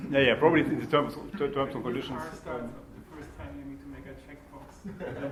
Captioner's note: laughter